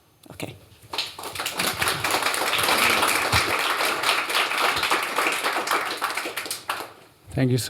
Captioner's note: applause